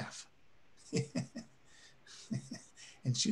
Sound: chuckles

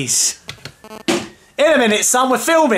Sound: thunking

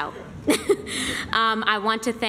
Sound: laughter

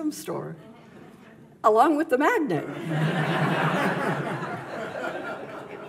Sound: audience laughs

